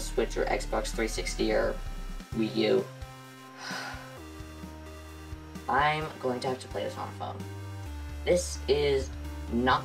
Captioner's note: sigh